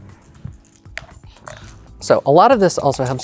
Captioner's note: dice clattering in cup